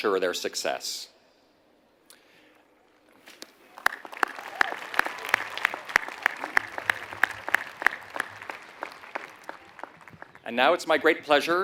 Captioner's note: applause